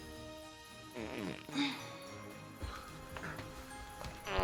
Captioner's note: Arizona farts